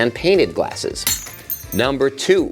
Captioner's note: glass shatters